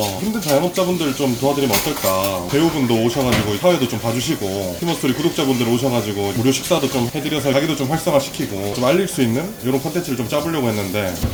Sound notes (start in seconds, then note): none